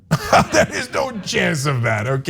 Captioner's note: laugh